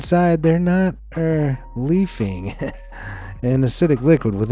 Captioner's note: giggling